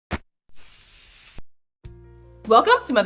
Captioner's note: can spraying; logo scratching